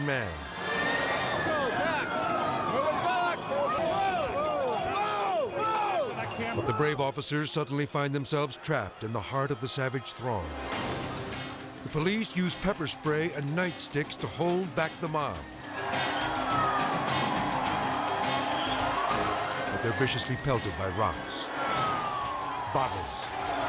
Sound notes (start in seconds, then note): 0.6 siren wailing; 15.5 intense music; 15.5 siren wailing